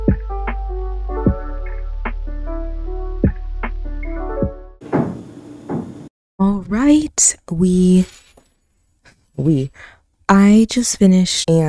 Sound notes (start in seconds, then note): 0.0 outro music plays; 4.9 thudding sound